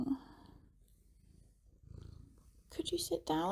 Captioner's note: loud purring